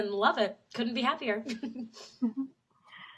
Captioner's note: laughs